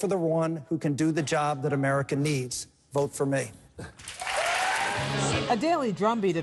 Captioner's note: cheering and applause